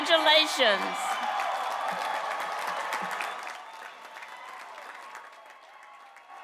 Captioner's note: cheers and applause